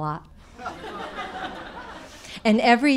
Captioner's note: audience laughing